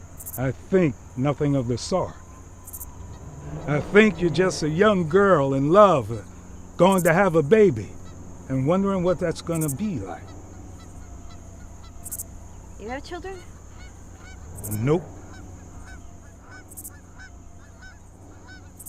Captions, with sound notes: - I think nothing of the sort. I think you're just a young girl in love, going to have a baby, and wondering what that's gonna be like. - You got children? - Nope. (birds cawing)